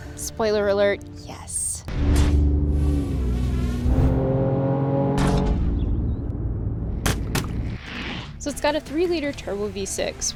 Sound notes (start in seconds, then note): 1.9 car engine roaring; 2.4 transitions whooshing